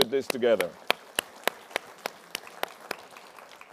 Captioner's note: applause